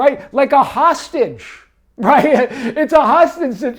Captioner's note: laughs